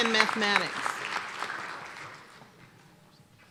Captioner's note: applause